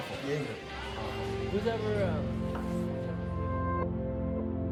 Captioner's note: nostalgic music plays; bar noise fades out